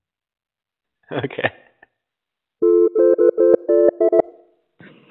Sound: phone rings

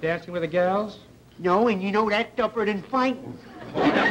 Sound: audience laughter

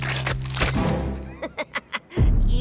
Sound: laughing

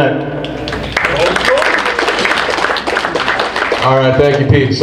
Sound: group applauds

